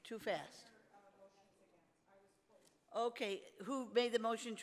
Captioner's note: speaks off mic